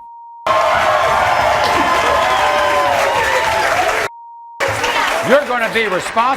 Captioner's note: audience cheering